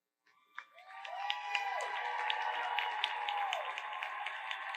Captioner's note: audience applauds